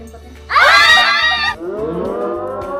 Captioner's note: screaming